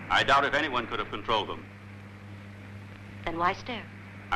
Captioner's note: none